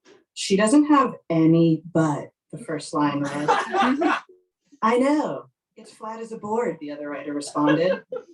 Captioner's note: laughing